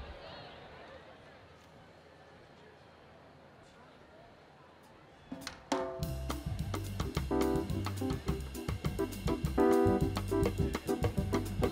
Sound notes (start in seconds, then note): 5.7 students cheering; 6.0 upbeat jazzy music